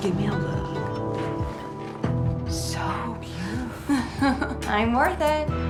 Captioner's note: chuckles